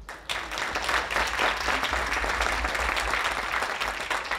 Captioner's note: audience applauding